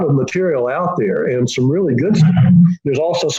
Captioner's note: distorted sound